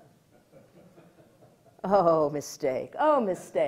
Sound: audience laughter

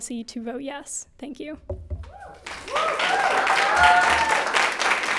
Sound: people cheering

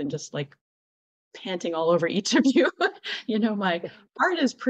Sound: laughter

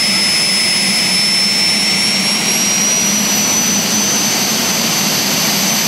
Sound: jet engine winding up sound

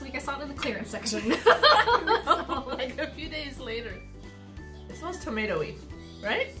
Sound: both laugh

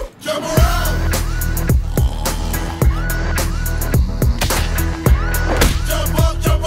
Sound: snoring continues

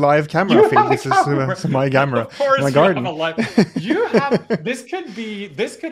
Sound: chuckling

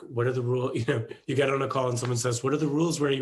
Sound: chuckles

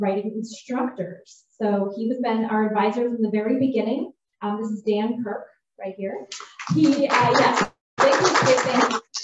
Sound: applause

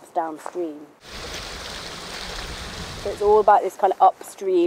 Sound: water flowing

